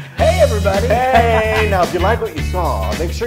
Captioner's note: laugh